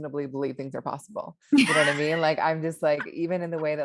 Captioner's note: laughs